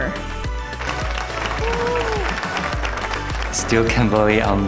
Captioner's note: applause